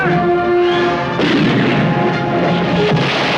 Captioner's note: cannon booming